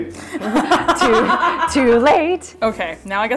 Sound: laughter

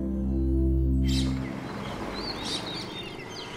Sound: birds chirping

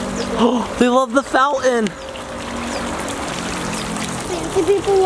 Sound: water pattering; gasps

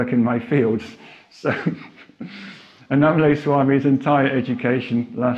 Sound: laughs

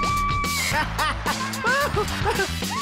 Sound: laughing

